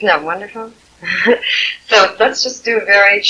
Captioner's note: laughing